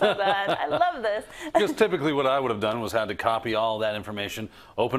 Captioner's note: laugh